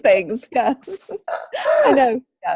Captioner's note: both laugh